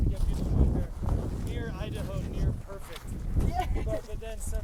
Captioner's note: laughs